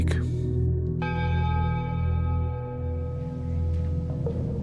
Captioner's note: bell ringing